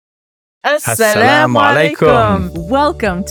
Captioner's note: both speak Arabic